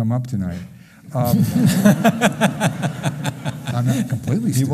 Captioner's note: laughing